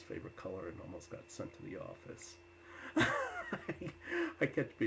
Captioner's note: laughs